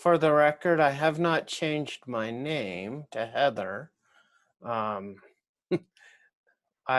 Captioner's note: laughs